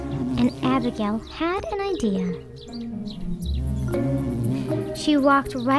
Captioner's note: bee buzzing